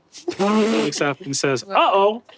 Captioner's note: Zac sputter laughs